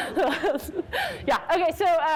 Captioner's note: all laugh